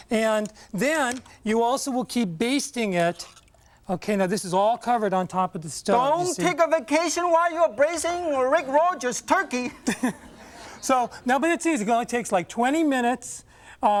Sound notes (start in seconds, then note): 7.8 laughs